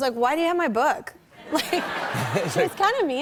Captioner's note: laughter